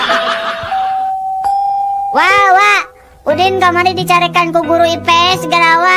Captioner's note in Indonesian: tertawa